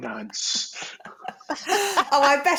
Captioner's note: laughter